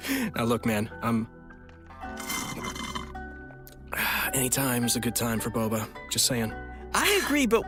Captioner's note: sipping tea sound